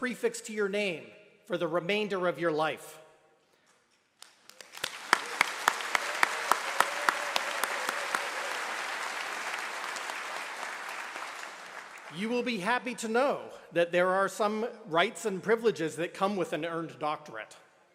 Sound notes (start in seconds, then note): 4.2 applause